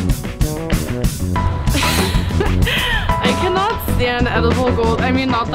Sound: upbeat music; laughs

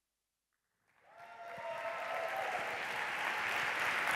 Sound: applause

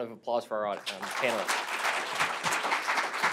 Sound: applause

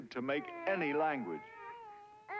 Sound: cooing

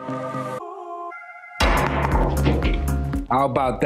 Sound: lively music; ball clanging

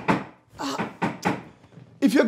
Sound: groans

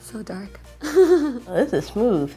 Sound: giggles

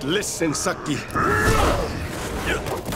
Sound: grunting

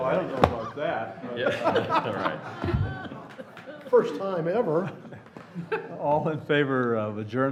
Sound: laughter

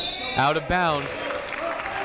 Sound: whistle blowing

